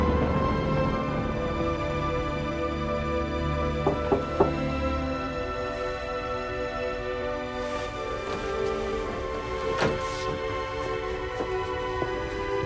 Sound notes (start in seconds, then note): 3.8 door knocking